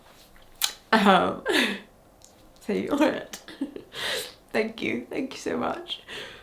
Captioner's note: chuckles